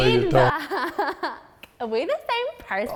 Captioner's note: laughs